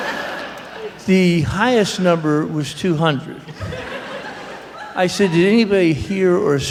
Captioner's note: laughter